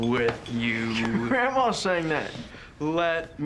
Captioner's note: laughs